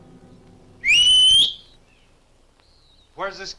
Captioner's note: Thorne whistles